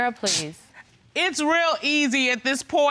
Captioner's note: scoffs